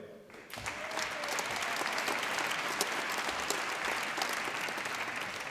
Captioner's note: applause